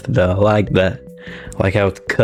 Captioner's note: inhales Oxygen